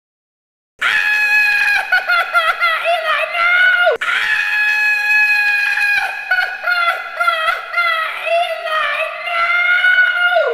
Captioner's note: screams